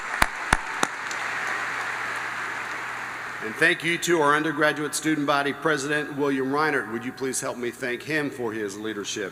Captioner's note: applause